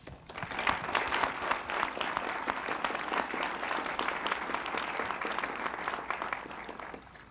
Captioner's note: applause